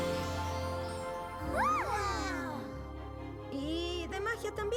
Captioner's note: gasps